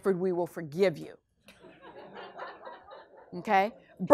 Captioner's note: class laughs